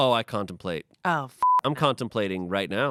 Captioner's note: beep